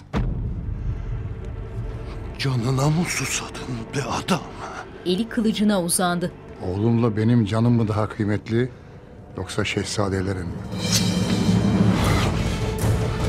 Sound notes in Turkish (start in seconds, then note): 0.1 Müzik - Gerilim; 4.6 Müzik - Gerilim; 10.8 Kılıç sesi